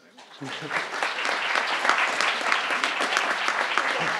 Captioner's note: crowd applauding